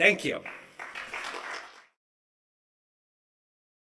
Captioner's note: applause